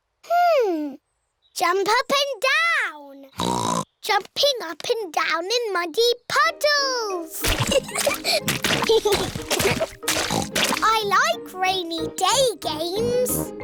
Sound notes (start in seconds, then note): 3.4 oinks; 7.6 both giggling; 10.4 oinks